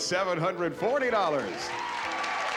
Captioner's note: cheering, applause